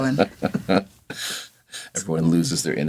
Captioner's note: chuckles